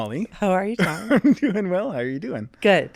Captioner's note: laughing